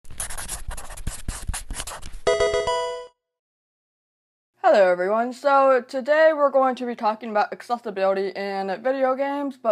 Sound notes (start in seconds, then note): 0.0 marker scratching; 2.2 electronic video game chime